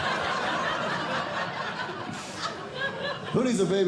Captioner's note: audience Laughing